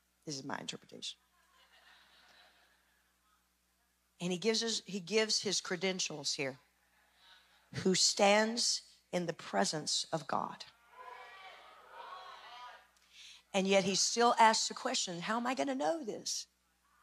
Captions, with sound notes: This is my interpretation. (laughing) And he gives his credentials here, who stands in the presence of God, and yet he still asks the question, "How am I going to know this?"